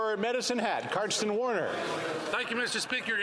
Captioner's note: some Applause